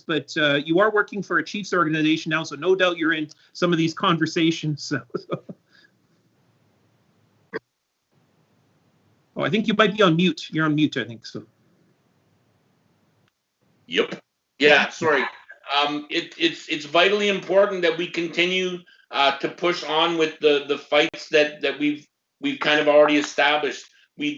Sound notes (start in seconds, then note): 4.9 chuckles